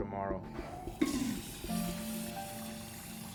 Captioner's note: toilet flushing